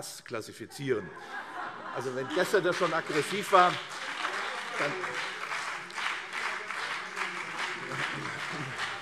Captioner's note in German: Heiterkeit und Beifall CDU und BÜNDNIS 90/DIE GRÜNEN